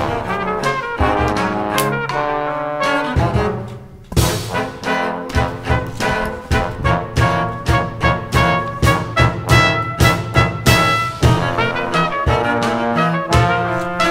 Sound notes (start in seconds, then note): 1.5 gun cocks